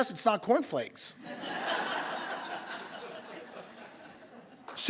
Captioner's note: laughter